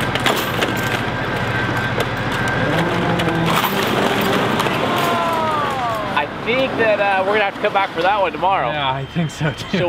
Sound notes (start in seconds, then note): 3.4 chain rattles and breaks; 5.2 man groans